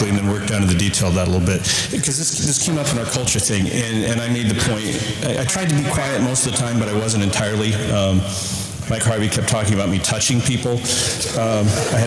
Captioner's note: audience laughter